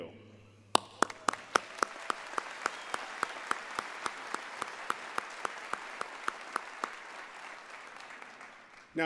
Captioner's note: applause